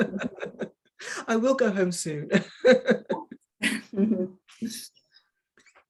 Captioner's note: woman chuckling